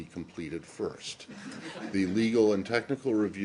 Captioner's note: laughter